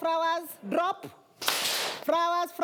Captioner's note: students clap